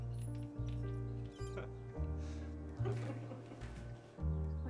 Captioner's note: both chuckle